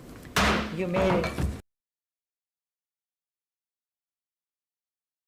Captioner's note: gavel pounds